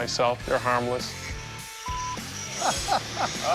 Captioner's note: laughs